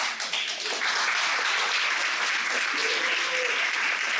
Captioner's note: applause